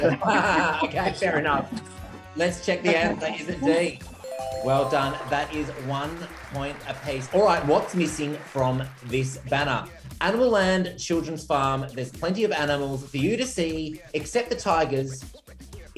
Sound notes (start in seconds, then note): 0.0 laughter; 4.1 bells ringing